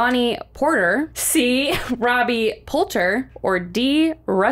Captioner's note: chuckles